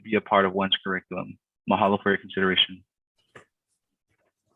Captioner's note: speaks in a foreign language